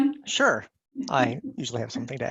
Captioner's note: giggles